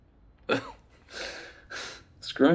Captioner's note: laughs